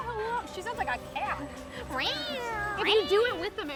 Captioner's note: cat noises